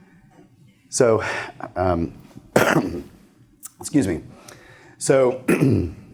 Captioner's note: coughs